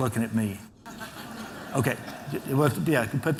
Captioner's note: laughter